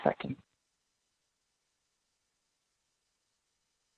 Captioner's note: silence